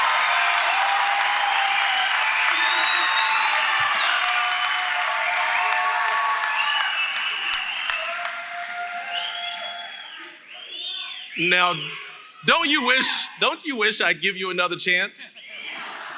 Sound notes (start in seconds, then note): 9.6 cheering